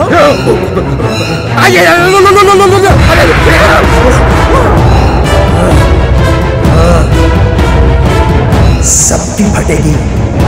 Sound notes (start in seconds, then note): 1.5 Speaks gibberish; 5.3 Manav Grunts